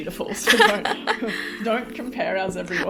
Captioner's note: laughs